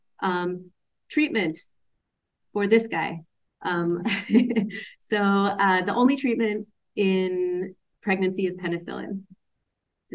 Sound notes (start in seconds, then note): 4.0 laughs